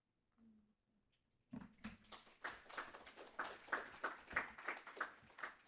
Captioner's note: audience applauding